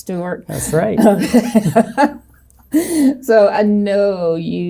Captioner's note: laughing